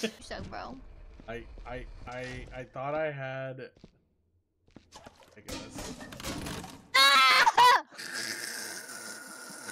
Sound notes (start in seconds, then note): 5.5 bucket clangs; 8.3 laughs